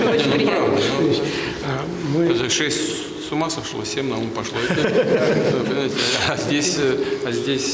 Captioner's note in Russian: Смех